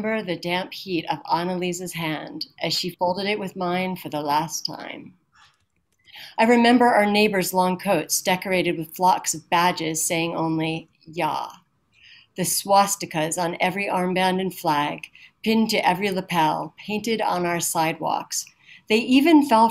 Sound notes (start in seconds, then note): none